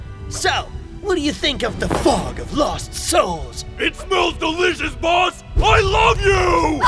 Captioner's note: none